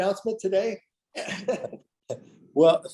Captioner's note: laughs